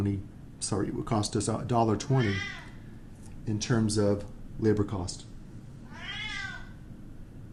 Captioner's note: meow